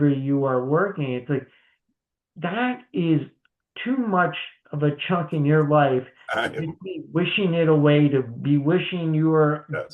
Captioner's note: laughs